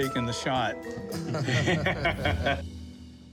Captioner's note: laughter